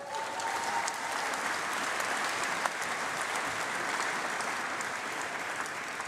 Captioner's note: applause